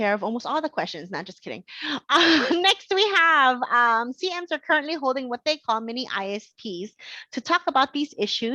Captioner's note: laughing